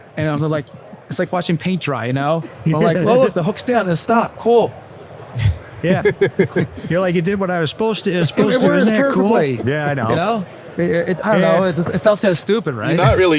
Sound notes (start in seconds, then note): 5.3 people laughing; 8.0 laughs